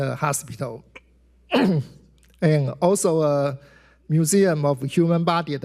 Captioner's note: clears throat